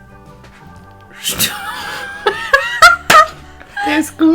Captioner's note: starts to laugh